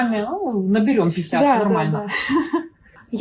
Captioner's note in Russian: Весёлый смех